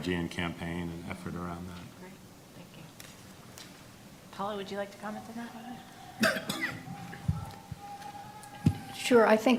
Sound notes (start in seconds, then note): 5.4 coughs